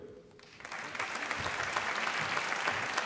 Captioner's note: applause